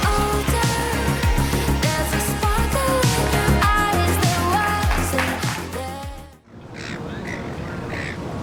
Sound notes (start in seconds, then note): 6.4 ocean waves